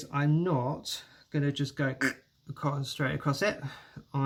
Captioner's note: echk!